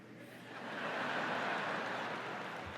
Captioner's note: laughter